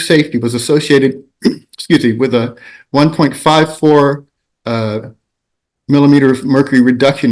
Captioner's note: clears throat